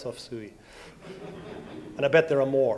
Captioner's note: audience laughs